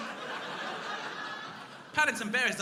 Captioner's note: crowd laughing